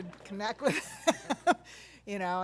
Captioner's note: laugh